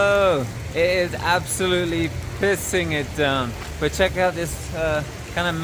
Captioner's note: raining